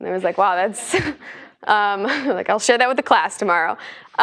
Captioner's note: laugh